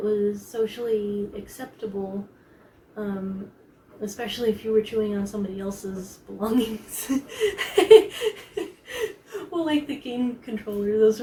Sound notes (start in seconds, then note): 7.3 sheepish laugh